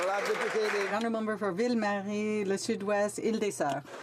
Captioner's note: some Applause